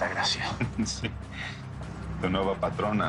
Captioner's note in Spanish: Riendo